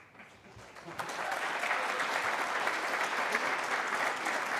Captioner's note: applause